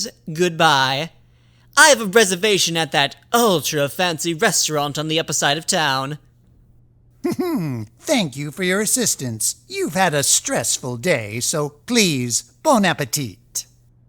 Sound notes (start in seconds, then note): 7.2 chuckles